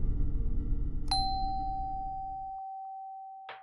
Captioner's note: doorbell ringing